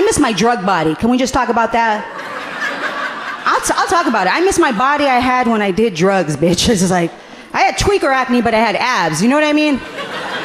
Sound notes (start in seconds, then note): 2.5 audience laughing gently; 9.9 audience laughing gently